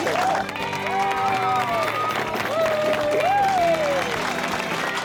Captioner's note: cheers and applause